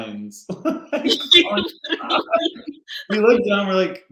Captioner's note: laughing